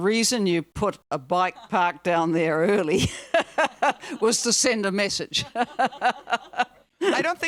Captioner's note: laughs